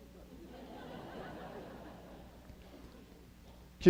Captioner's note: laughter